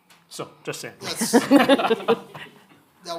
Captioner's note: audience laughing